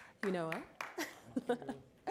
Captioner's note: applause